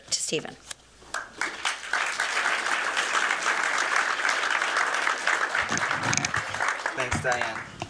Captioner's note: applause